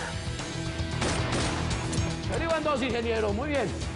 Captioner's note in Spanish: Disparos